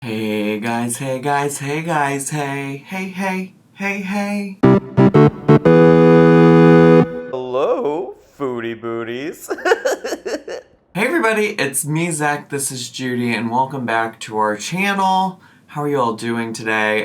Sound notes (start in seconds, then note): 4.6 video game music; 9.4 laughing